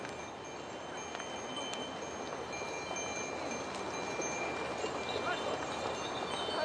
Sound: sound of bells; sound of bells, horses, and Tibetan voices

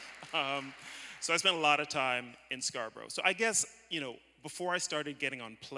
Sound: applause

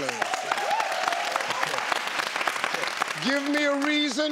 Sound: audience applauding

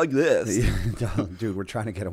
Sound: chuckle

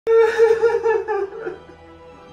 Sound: crying

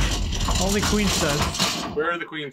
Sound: metal clunking loudly

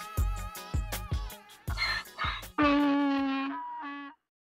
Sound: pony neighs

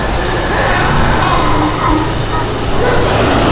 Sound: screaming; static flickering

